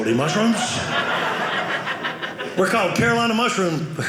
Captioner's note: audience laughing